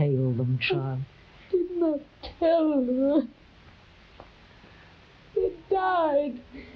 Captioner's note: crying